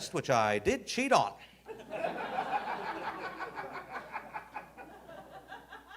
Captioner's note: audience laughing